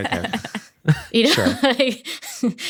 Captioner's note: chuckles; laughs